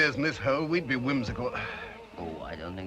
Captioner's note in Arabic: تنهدات